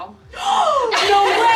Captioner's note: grandma gasps